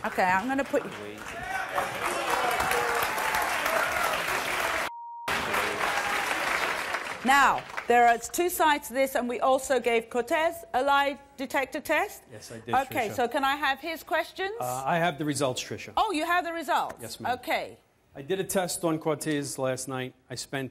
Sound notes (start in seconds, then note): 5.2 applause